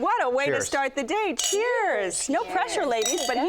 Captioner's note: wine glasses clinking